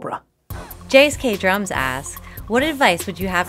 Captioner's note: voiceover